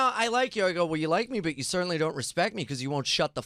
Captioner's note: none